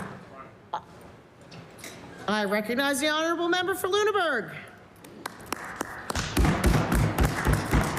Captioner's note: applause